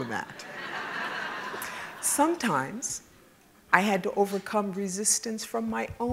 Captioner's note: laugh